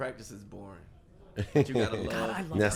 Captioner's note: laughs